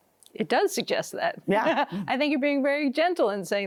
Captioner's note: laughs